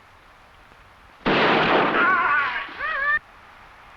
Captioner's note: gunshot blasting; animal calling; warrior groaning